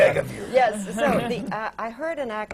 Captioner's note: laughter